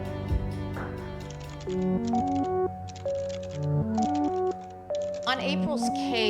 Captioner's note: typing on keyboard